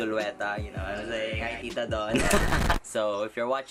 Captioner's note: laughs